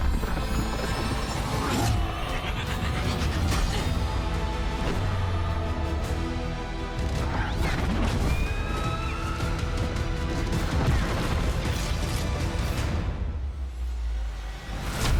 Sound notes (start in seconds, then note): 6.4 cheers and applause